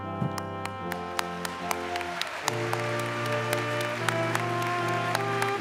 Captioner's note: applause